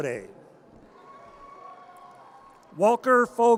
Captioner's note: audience cheers